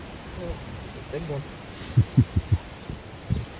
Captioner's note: laughter